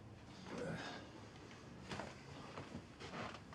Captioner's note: Abe groans